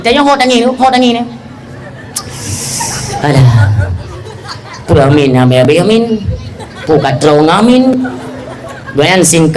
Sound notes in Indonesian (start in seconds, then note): 4.6 tertawa